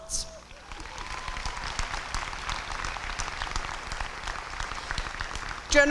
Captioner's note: applause